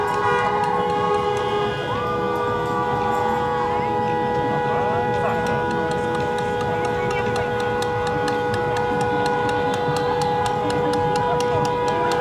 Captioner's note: crowd cheering